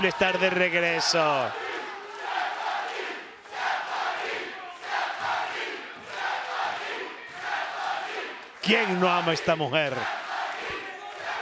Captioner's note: applause